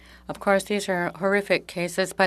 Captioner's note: speaking French